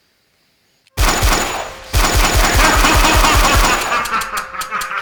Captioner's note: shots repetitively, laughing